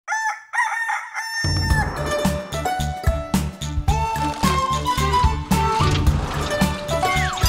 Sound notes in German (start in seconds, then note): 0.0 Hahn kräht; 3.7 Titelmelodie